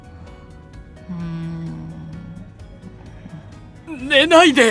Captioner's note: yawn